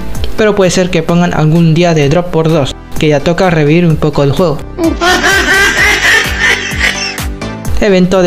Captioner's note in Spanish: mujajajajajajajaja